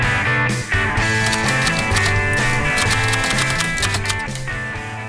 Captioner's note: typewriter clicking